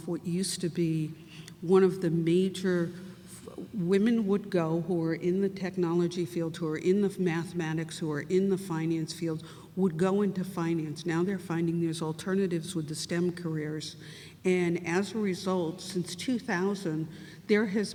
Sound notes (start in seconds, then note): none